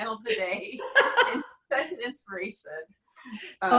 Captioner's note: laughing